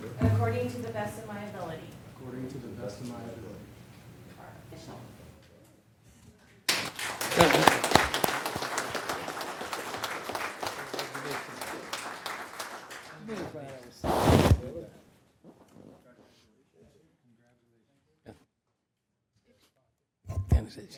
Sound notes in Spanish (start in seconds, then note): 11.3 aplausos